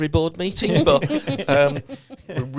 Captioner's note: all laughing